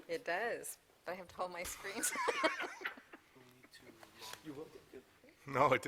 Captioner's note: laughter